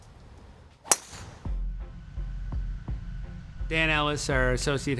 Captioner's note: club pinging